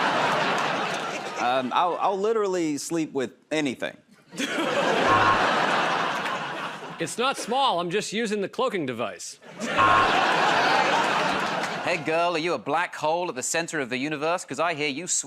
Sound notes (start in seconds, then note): 0.0 laughter; 4.3 laughter and applause; 5.0 buzzer; 9.5 laughter and applause; 9.7 buzzer